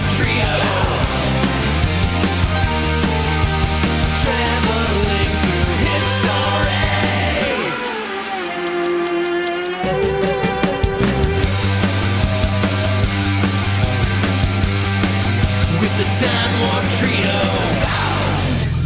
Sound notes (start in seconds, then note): 6.8 clock ticking; 11.0 rock music